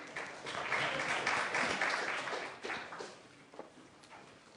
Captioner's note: applause